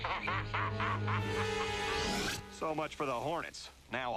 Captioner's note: laughs